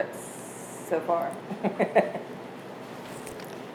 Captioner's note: hairdresser laughs